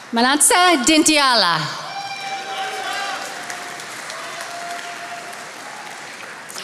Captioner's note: attendees applauding